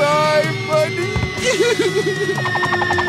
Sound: crying

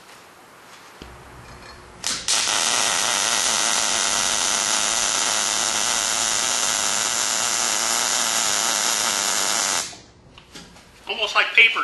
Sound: welding

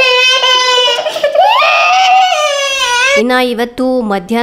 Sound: is crying

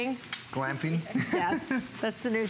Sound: laughter

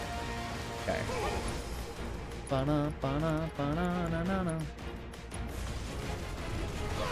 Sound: humming

